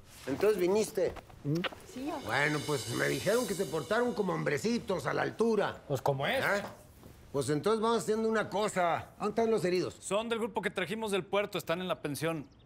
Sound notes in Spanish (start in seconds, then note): none